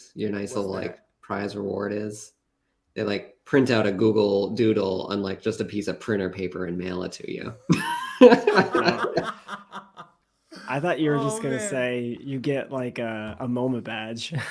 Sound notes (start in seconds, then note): 7.6 laughter